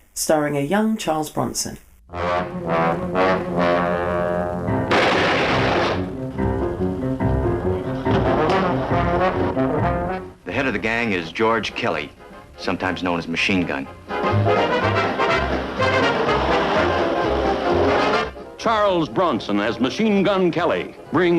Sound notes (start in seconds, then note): 2.1 dramatic music; 4.8 gun shooting; 14.4 upbeat music